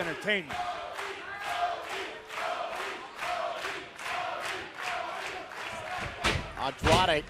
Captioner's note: crowd cheering